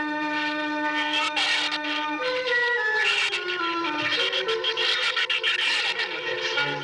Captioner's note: shrew squeaking